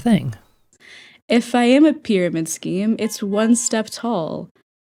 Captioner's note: inhale